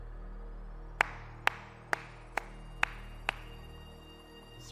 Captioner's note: clapping